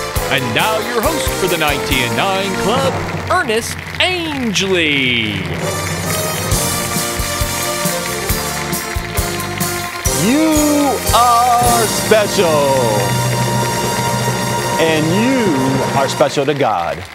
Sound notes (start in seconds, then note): 5.8 applause